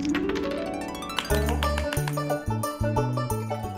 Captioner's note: clapping